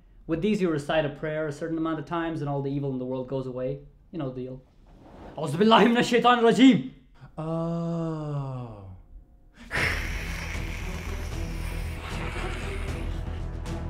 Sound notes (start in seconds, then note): 5.2 recites prayer; 9.6 hiss; 9.7 dramatic music resumes